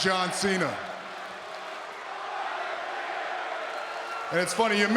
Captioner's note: audience chanting and clapping